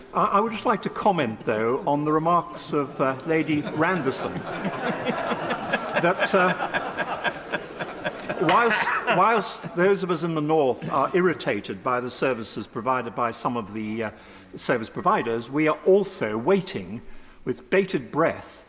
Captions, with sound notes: I would just like to comment though, on the remarks of Lady Randerson. (Laughter from the crowd) that whilst those of us in the north are irritated by the services provided by some of the service providers, we are also waiting with bated breath